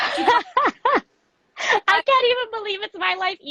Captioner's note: laughs